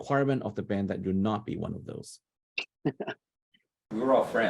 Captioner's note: laughs